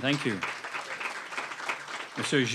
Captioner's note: applause